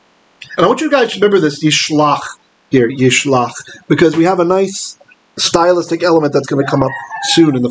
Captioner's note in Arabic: بالعبرية